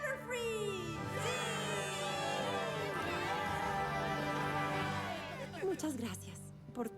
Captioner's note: cheers